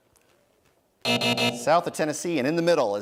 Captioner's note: buzzing